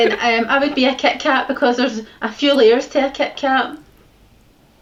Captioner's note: laughter; laughter